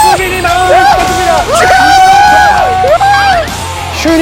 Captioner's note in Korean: 환호